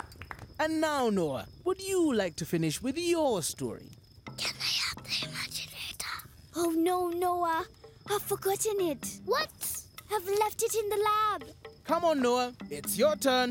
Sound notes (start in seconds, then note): 3.7 whispering